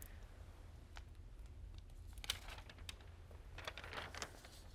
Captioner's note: letter rustles